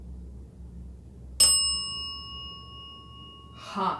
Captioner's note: bell dings